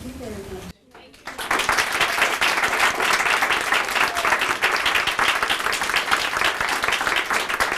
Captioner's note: audience applauding